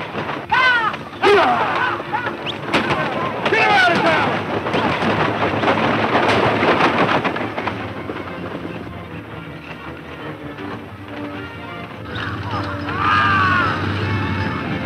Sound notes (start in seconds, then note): 2.8 gunshots; 6.8 loud overlapping voices yelling at horses